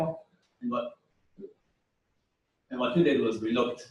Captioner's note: pause